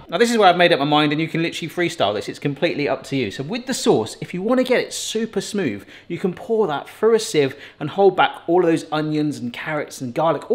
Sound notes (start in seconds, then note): none